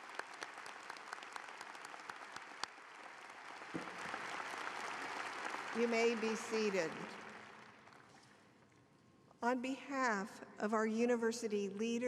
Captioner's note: applause